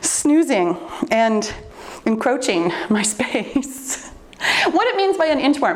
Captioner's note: laughs